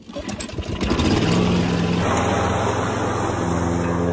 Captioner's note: engine starting